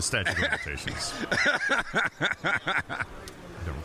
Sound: laughing

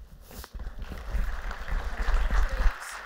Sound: applause

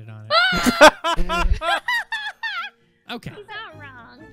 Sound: Goldie screams; Unicorn and Tina laugh at Goldie's misfortune

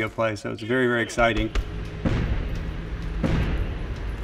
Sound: combat sounds

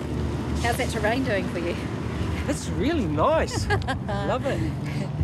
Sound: laughs

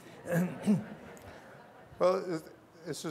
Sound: laughter

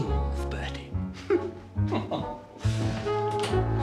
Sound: chuckles

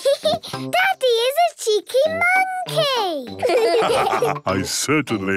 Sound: laughs; all laugh

